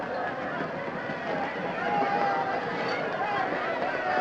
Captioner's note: applauding